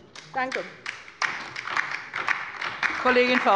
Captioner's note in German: Beifall bei der LINKEN